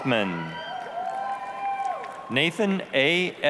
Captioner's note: applause, cheering